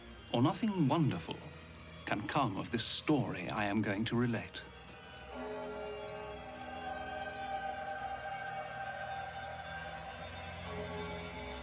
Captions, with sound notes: ...or nothing wonderful can come of this story l am going to relate. [BELL TOLLlNG]